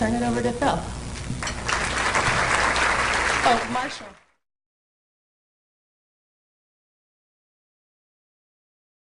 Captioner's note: applause